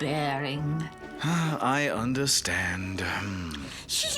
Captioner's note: sighs